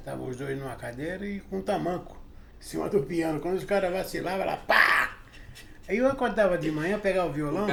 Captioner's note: blow sound